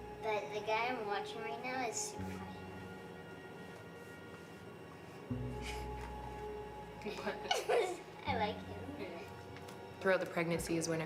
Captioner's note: baby cooing